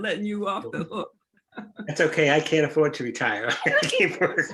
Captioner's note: laughing; laughing